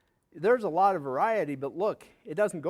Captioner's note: none